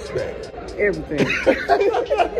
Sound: laughs

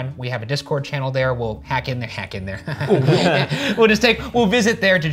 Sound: laughs

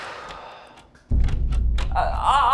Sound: heavy sigh; door handle jiggling

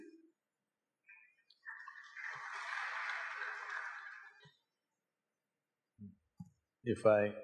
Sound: applause

